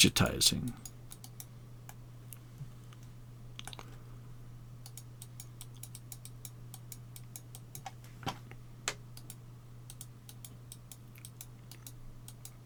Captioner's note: mouse clicking